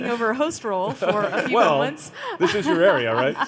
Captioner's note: laughs